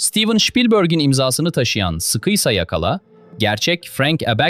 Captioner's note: thoughtful